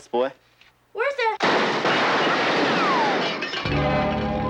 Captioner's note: gunfire